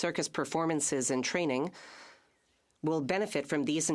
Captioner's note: speaking French